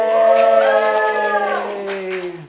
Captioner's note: applause